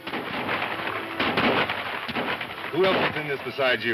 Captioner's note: guns firing